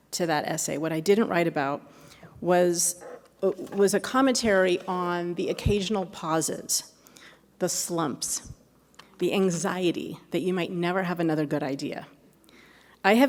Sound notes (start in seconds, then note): none